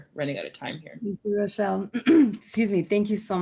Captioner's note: clears throat